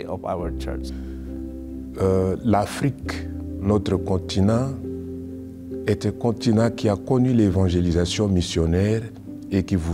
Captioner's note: speaking French